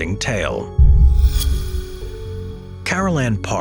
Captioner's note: transition whooshing